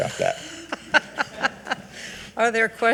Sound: giggling

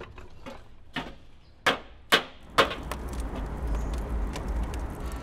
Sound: banging

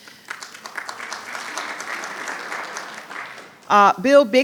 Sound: audience applauding

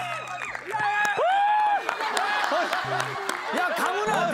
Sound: exclaiming!

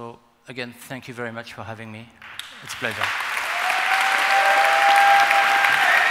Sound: applause

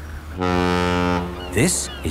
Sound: laughing; ferry horn blows

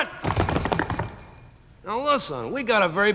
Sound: hooves stomp

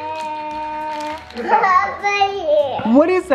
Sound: groans

